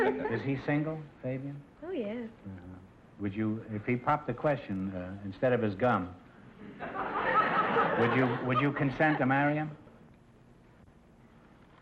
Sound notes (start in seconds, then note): 6.6 audience laughter